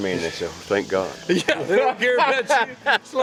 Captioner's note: laughs